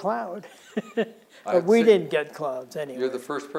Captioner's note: laughs